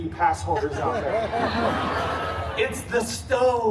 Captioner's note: guests laughing